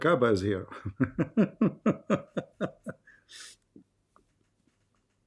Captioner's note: Ketawa